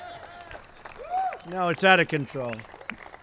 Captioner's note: applause